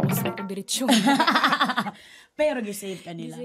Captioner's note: laughter